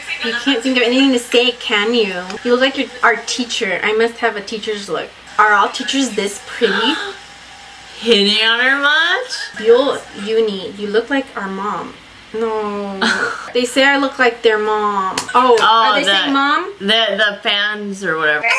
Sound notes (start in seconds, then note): 6.9 gasps; 13.0 laughs; 18.4 high pitched voice